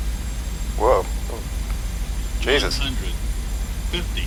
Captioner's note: worried noises